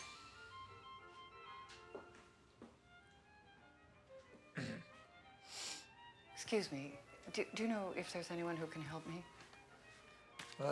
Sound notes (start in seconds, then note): 4.5 coughs